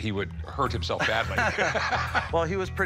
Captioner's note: laughter